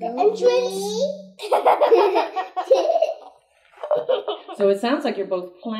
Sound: laugh

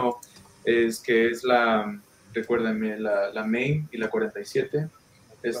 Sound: speaking in foreign language

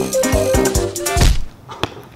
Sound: Ball smacks Swiper

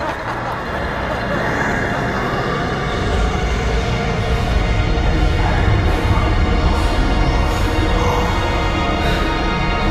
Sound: mocking laughter; demonic growling; music intensifies

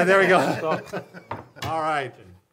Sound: laughs

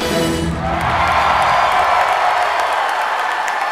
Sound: cheering and applause

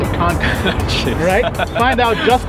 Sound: host laughs

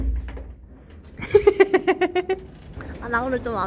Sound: laugh

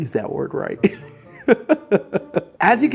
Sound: group laughing

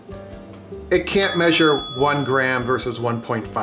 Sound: dinging

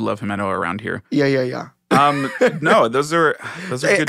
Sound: laughing

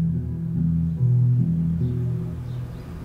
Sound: birds chirping, wind blowing

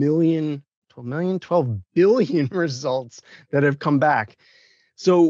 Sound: laughs

